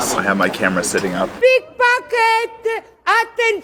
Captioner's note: speaks Italian